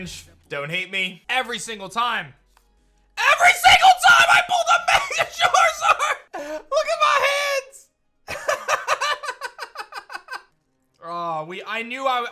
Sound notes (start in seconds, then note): 8.3 laughs